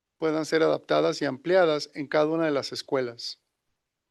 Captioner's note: non-english speech